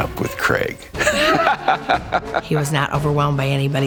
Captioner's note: interviewer laughing